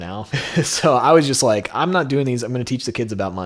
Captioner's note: laughs